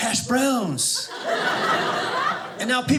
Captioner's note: audience laughing